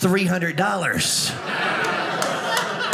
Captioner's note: audience laughing